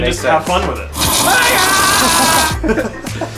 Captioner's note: screaming and fire burning; laughing